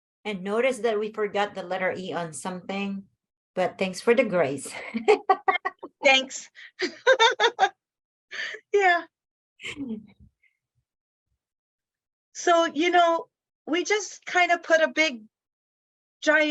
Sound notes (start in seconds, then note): 5.1 laughs